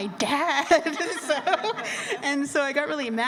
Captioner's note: laughter